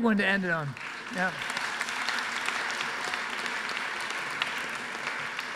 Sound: audience applauds

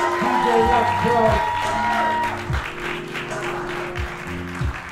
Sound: crowd cheers; soft music

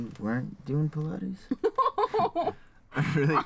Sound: laughing

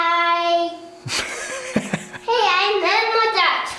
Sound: father laughs

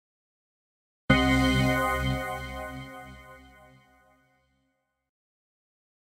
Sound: simply spooky sound

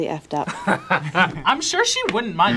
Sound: both laugh

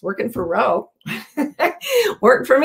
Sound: laughs

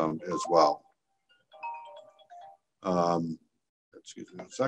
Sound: cellphone rings

